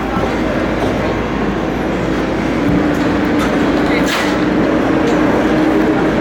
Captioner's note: general construction noise